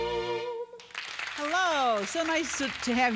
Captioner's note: audience applauding